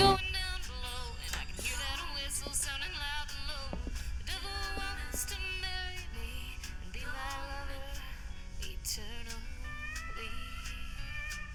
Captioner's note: footsteps, a radio playing a song